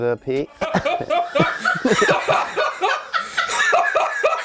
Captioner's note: manic laughter